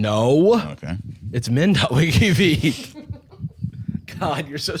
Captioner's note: laughing